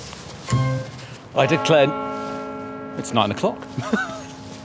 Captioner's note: BONG from St Paul's Cathedral